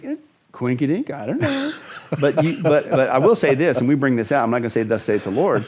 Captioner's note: laughs